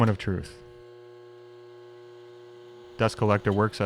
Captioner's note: surface grinder whirring